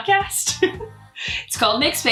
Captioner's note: laughs